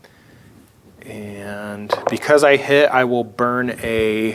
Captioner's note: dice rolling